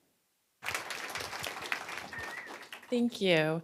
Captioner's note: applause